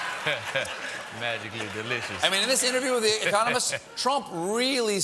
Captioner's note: laughter